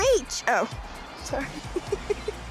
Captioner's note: laughs